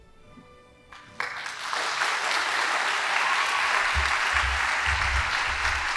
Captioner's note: audience applauding